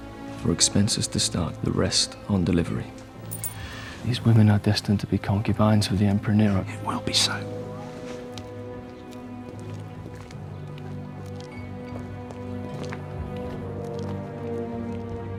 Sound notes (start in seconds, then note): none